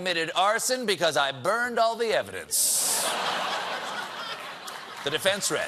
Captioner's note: laughter